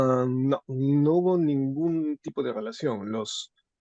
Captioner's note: speaking spanish